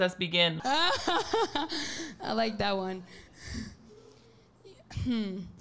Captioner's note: laughs